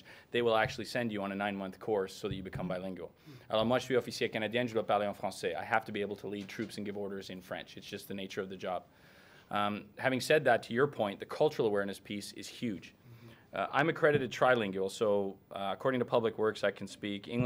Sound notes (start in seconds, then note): 3.4 speaking in French